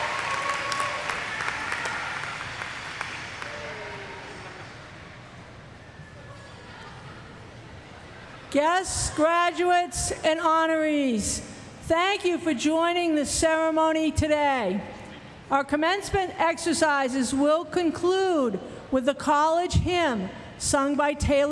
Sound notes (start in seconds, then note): 4.1 applause